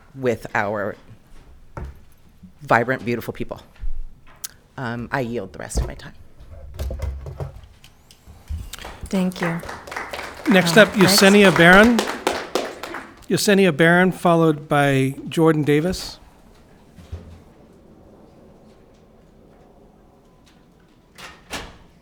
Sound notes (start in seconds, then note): 8.4 audience clapping